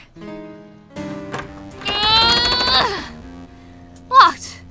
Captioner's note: door knobs rattles